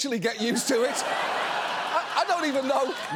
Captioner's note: audience laughs